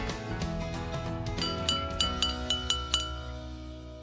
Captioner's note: rings the bell